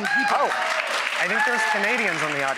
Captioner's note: audience applauds; audience cheers